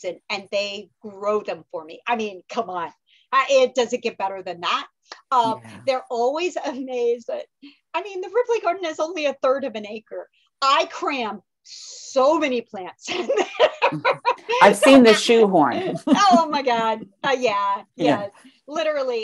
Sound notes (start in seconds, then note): 15.7 laughter